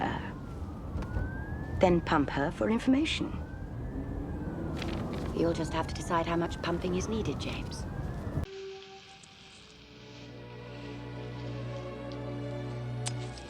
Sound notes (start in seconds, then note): 0.3 sirens, car noise; 4.7 paper rustling; 13.0 snip